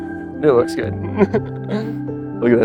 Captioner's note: laughter